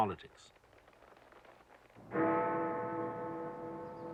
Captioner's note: big ben tolling